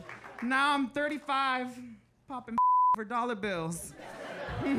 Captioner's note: beep; audience laughing